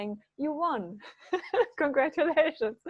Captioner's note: laughing